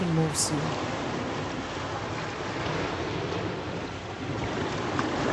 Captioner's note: water rumbling